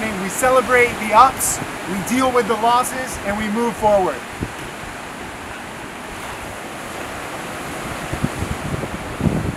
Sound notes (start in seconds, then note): 4.6 waves crashing on shore